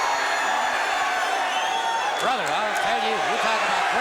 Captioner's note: crowd cheering